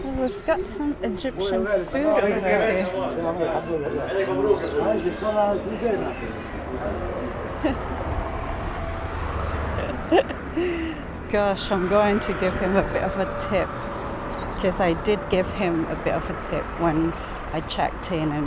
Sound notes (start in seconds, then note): 4.8 people chattering; 5.7 laughs